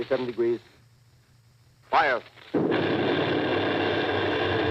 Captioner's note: boom of heavy gun . . . pause